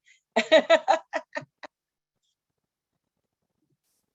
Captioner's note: laughing